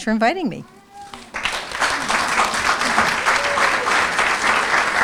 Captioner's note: applause